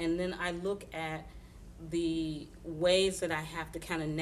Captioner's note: none